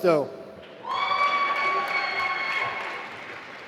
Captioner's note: applause